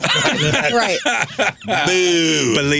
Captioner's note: laughing